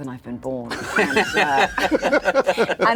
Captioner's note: laughter